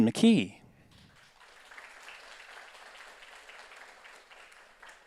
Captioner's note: audience applauds